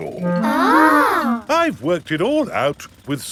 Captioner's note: children gasp in awe